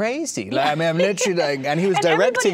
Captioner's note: laughing